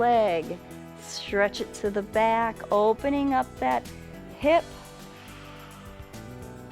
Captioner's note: exhales; inhales